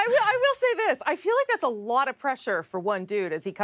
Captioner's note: laughter